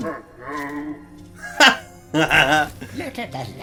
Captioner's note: laughs